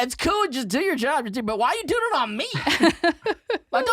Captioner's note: laughter